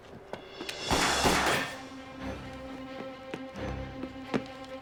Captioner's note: gun firing